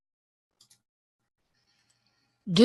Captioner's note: mouse clicks